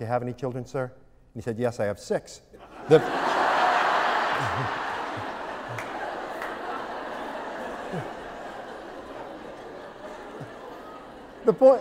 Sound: laughter

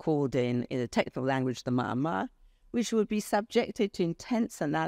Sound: speaks foreign language

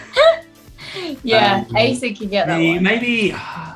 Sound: laughs

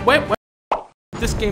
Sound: pop

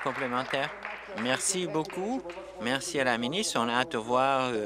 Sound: applause

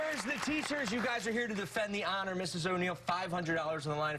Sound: cheers and applause

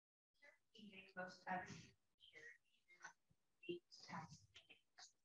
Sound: participant faintly speaking

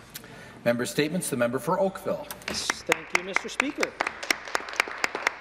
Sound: some Applause

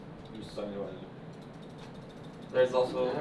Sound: mouse clicking

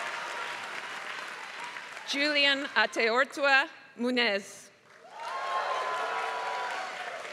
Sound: applause; applause

